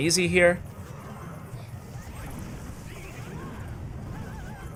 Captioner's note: game sounds